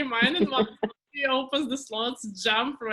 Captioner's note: laughs